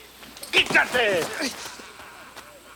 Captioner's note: Bruto yells in Spanish